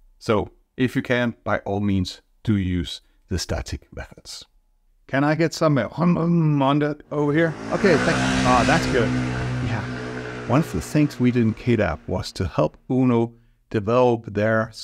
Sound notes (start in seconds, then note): 7.1 car motor revving up sound; 7.1 mimics sound of car motor revving up